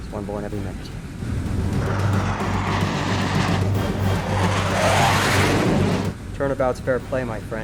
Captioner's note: aircraft whirring; tense music